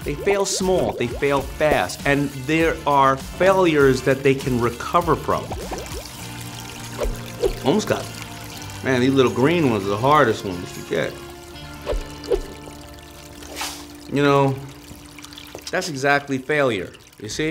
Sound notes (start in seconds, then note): 5.2 bubbles popping; 6.3 running water